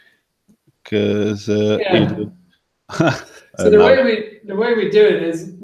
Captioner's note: laughs